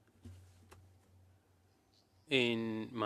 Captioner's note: speaking French